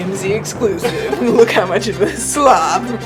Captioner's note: both laugh